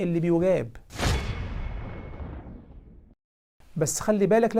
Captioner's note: sound effect